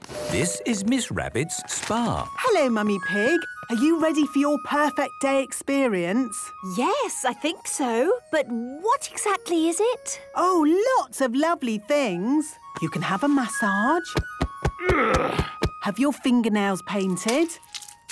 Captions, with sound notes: - This is Miss Rabbit's spa. - Hello, Mummy Pig. Are you ready for your 'Perfect Day' experience? - Yes, I think so... But what exactly is it? - Oh, lots of lovely things! You can have a massage... - (thumping) - (moaning) - Have your fingernails painted...